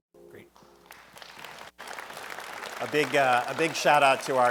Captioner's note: audience applauding